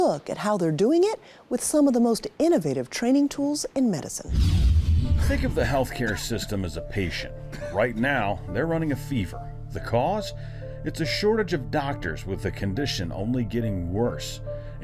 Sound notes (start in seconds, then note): 4.2 screen whooshing